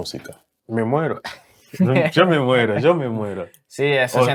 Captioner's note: laughs